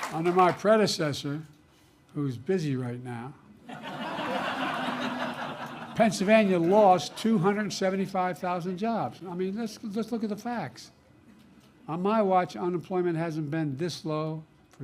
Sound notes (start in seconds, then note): 3.6 laughter